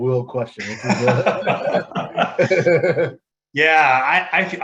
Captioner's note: laughs happily